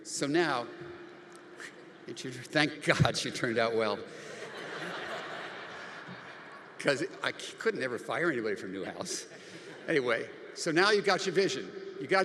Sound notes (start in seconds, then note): 1.1 audience laughs; 4.2 audience laughing